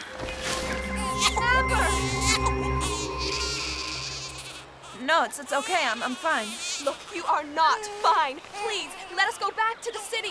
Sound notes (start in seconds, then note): 2.4 baby crying